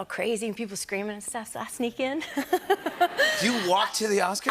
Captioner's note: laughter